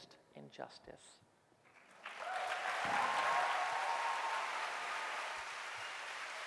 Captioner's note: applause